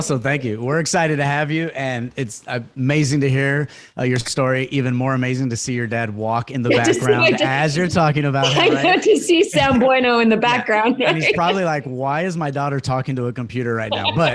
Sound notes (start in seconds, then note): 9.6 speaks foreign language